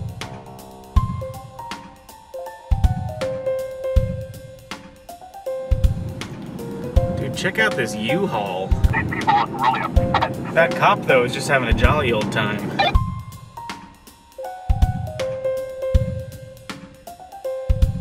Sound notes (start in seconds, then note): 12.6 walkie-talkie squawks